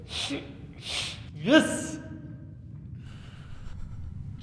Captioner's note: sniffling